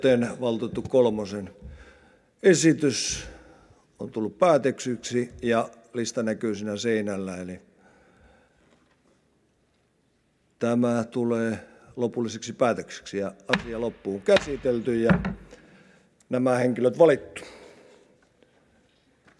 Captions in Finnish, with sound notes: joten valtuutettu Kolmosen esitys on tullut päätetyksi ja lista näkyy siinä seinällä, eli tämä tulee lopulliseksi päätökseksi (kopauttaa nuijaa). Asia loppuunkäsitelty ja nämä henkilöt valittu